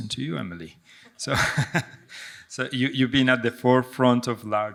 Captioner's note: chuckles